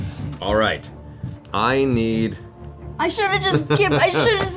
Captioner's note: laughs